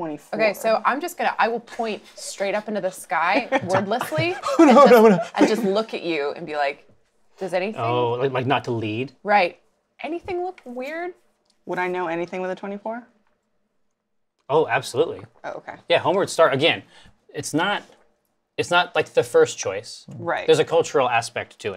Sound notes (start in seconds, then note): 3.4 laughs; 5.0 startled sound